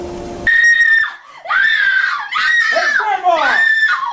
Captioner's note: screaming